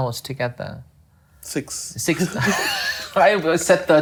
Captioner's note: laughing